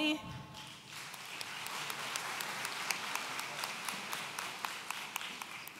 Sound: audience applauds

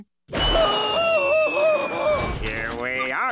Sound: screaming

